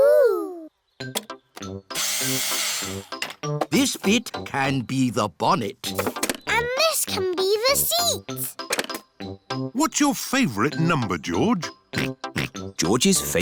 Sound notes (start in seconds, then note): 2.0 whirring; 12.7 snorts